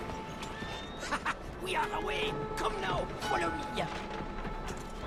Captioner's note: laughs